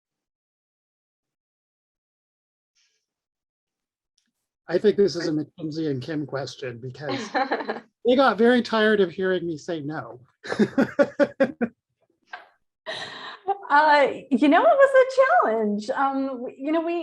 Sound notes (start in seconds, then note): 10.4 laughs